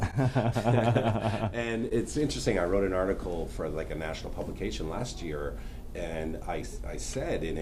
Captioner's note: laughter